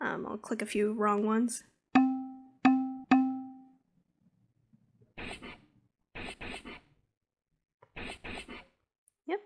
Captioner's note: dinging, letters being crossed out